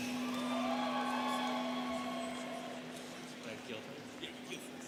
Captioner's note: students cheering